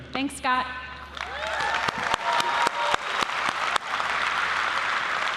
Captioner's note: applause